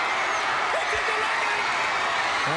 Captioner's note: crowd cheering